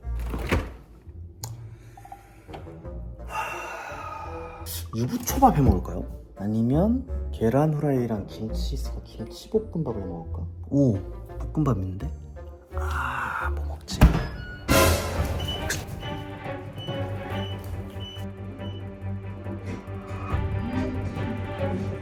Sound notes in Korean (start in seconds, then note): 15.3 띠디